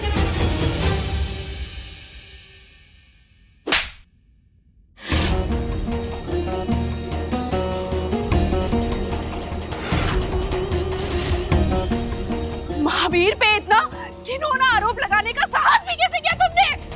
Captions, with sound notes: [slapping] [tense music] How dare you accuse Mahaveer of this heinous action?